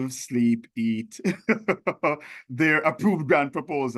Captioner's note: chuckles